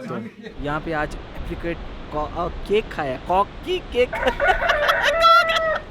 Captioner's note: cock voice